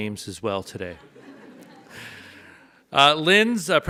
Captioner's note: audience laughs